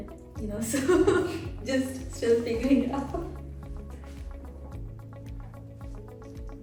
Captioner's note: laughs